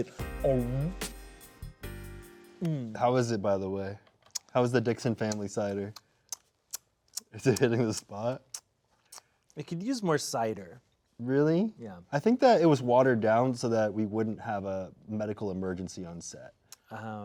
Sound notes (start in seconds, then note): 0.0 sexy music; 7.1 lips smacking